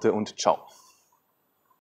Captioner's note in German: silence